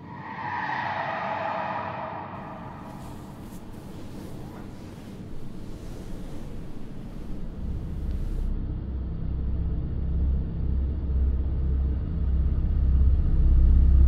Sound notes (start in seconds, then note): 0.0 tires screeching with long echo; 3.4 bed sheets rustling; 7.5 deep rumbling sound